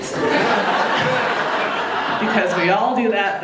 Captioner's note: audience laughing